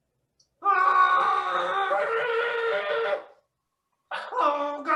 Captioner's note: screams of agony